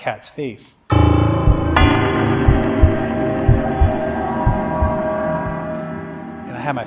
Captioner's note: ominous music; heart beating